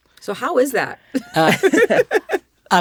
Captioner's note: laughter